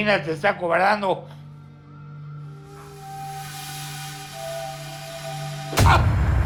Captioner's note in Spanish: quejido